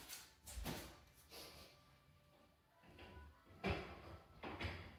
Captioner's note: sniffle